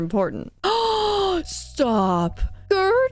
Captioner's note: gasp